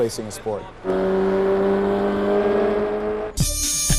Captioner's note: engine revving